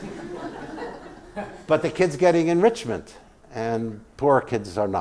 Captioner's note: laugh